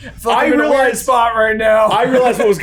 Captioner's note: laughs